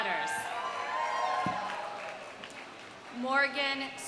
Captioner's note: audience cheering; audience applauding